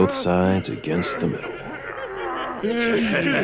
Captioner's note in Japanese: ジョシュのうめき声; 囚人たちの笑い声